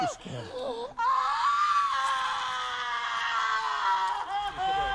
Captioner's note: Aemma screaming